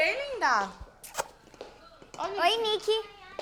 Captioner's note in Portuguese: estalos de beijos